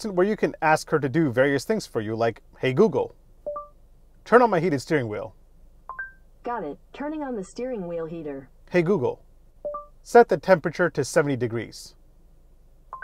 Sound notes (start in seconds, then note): 3.5 notification dings; 5.9 notification dings; 9.7 notification dings